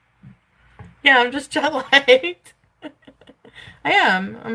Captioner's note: laughs